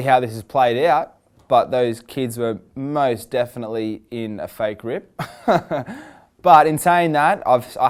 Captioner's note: laughs